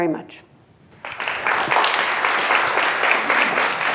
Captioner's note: applause